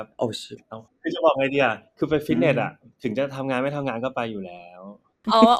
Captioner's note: clarifying in Thai